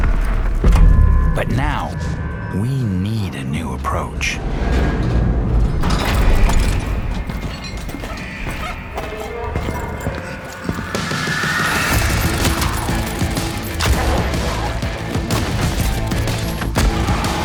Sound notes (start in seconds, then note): 4.5 metal clanking; 5.4 alarm blaring